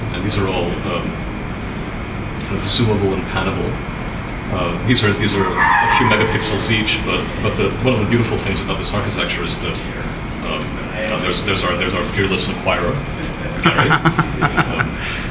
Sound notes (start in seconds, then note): 13.5 laughs